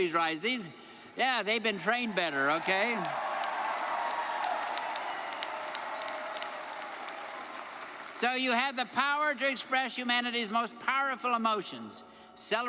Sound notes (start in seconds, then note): 2.3 audience cheers and applauds